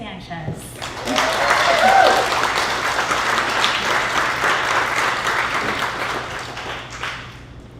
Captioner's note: applause